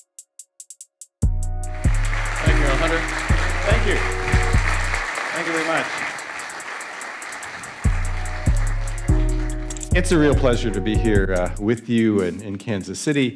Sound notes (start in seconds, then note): 1.8 audience applauding